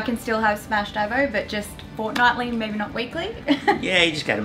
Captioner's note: laughs